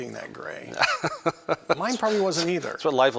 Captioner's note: laughter